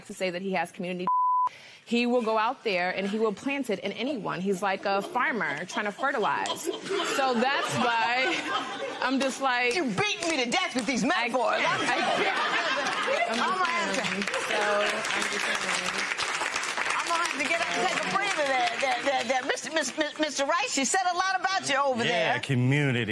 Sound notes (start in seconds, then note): 12.0 stammering; 15.8 laughter, applause